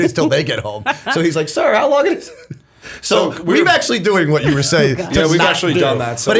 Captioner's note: chuckle; chuckle